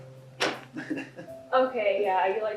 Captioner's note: laughs